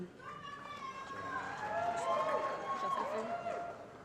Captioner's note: applause & Cheering